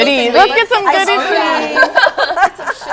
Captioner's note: laughter